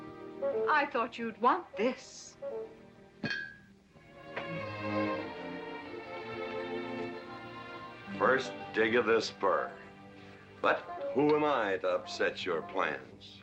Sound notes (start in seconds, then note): 3.2 table rattling